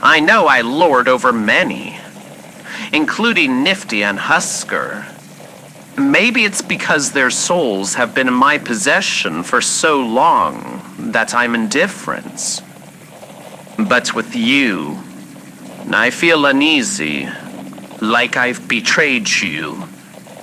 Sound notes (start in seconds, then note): none